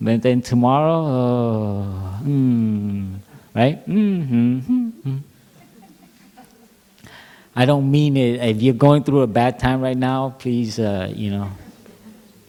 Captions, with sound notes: But then, tomorrow, ummm. Right? (Laughter) I don't mean - If you are going through a bad time right now, please, you know -